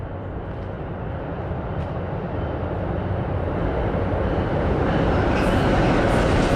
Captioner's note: Sound of approaching Amtrak train